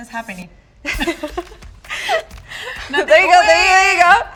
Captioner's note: both laugh